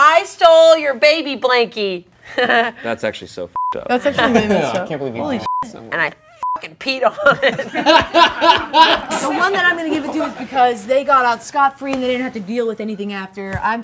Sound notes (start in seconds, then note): 2.3 chuckles; 3.6 beep; 5.4 beep; 7.0 group laughing; 7.1 laughs